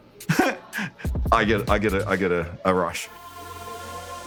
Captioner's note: chuckles